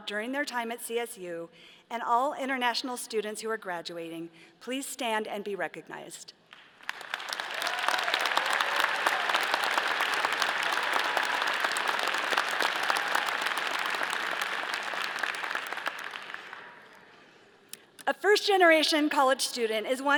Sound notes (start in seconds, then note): 6.5 all applauding; 7.0 all cheering